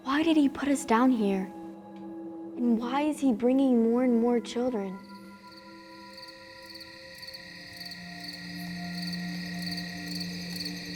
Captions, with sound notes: Why did he put us down here? And why is he bringing more and more children? (crickets chirping)